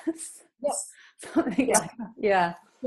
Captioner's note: laughs